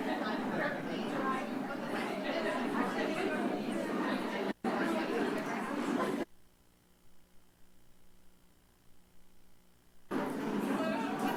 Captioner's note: indistinct background chatter